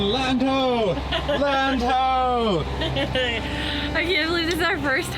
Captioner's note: laughs